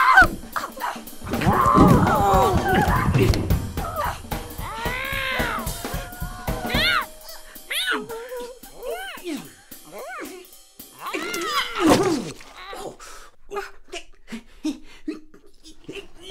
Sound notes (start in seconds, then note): 1.2 grunting; 7.0 cat meows repeatedly